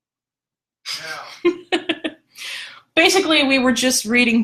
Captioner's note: laughs